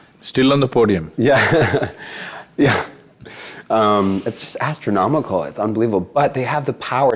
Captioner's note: laughs